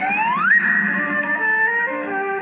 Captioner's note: click